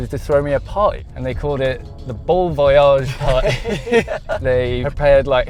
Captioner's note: both laugh